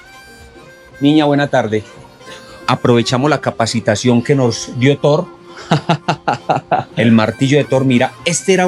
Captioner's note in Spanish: risas